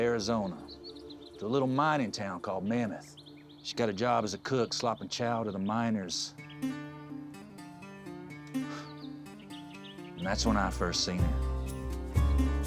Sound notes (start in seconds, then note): 8.5 sighs